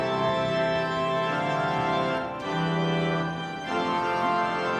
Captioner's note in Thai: ปรบมือ